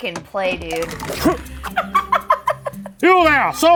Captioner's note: laughing